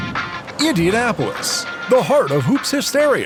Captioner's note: upbeat music; lively Manly Voice